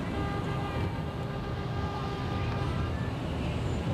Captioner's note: horns honking